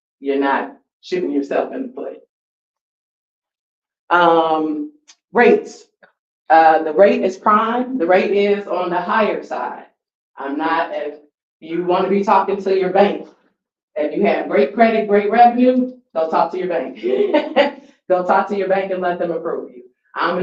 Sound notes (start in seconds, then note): 16.9 laughs